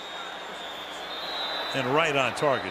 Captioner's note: whistle